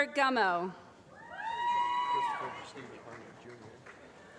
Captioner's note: applause